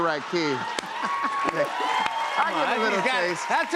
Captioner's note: cheers and applause